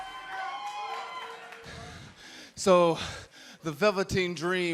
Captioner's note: crowd cheering